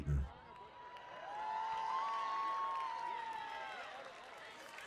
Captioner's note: cheering